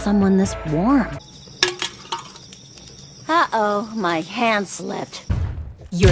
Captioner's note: clank